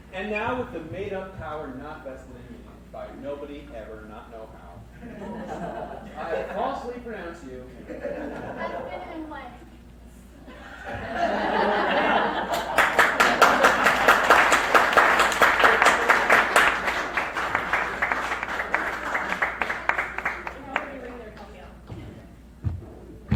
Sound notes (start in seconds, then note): 7.7 crowd laughs; 10.5 "Husband and wife" crowd laughs and cheers